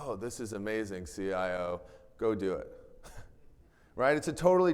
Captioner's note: chuckles